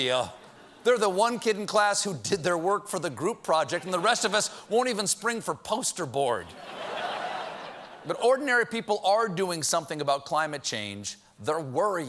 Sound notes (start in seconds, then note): 3.8 laughter